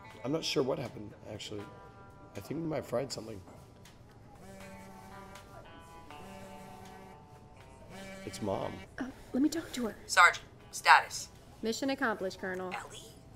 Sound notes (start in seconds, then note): 5.3 phone buzzing